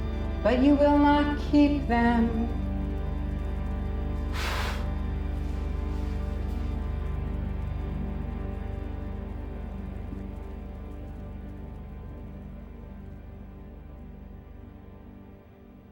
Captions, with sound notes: but you will not keep them. (blowing) (tense music)